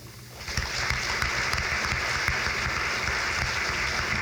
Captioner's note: crowd claps